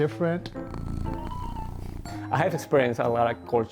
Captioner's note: car purring